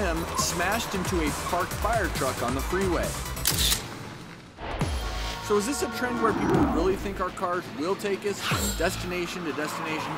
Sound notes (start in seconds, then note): 4.7 car horns